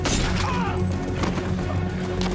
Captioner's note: yells